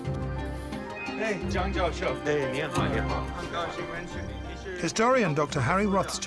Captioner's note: speaking in foreign language